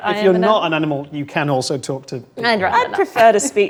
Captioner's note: overlapping chattering